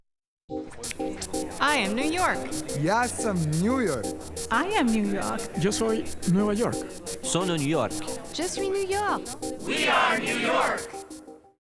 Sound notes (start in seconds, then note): 6.8 Spanish; 9.2 French